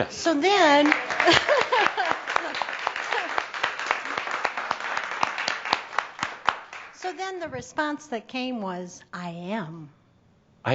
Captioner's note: more applause